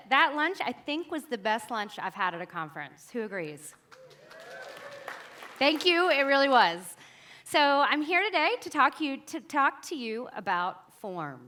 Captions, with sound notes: That lunch, I think was the best lunch I've had at a conference. Who agrees? (audience applauds and cheers) Thank you, it really was. So, I'm here today to talk to you about forms.